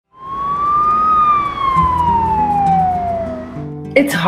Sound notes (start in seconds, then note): 0.1 sirens blaring; 2.3 calm music